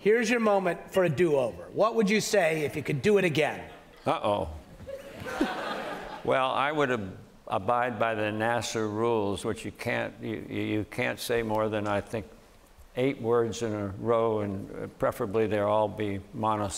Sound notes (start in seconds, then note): 4.8 laughter